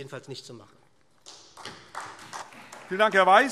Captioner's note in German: Beifall SPD